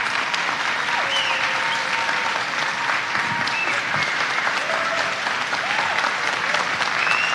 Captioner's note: audience cheering, applauding, whistling